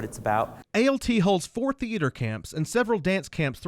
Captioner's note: voiceover